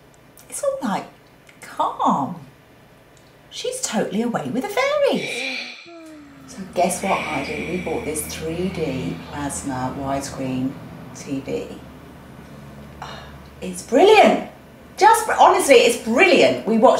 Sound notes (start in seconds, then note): 5.0 oxygen mask breathing sound